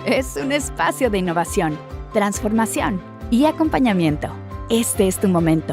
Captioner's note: uplifting music continues; announcer speaking in Spanish